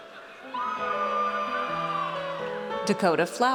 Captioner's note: audience cheers